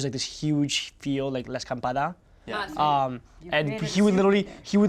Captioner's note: speaks in Spanish